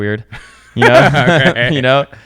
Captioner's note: laughs loudly